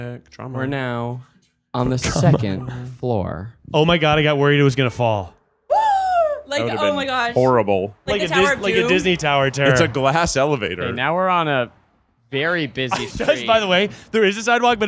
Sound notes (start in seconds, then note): 5.7 gasping